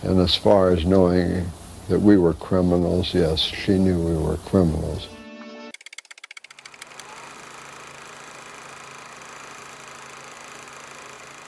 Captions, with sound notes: And as far as knowing that we were criminals, yes, she knew we were criminals. (typewriter keys clacking) (projector whirring)